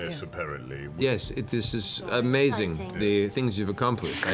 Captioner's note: deadpan